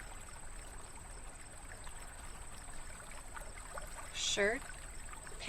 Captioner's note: water flowing